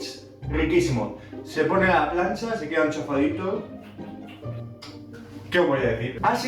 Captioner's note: kissing noises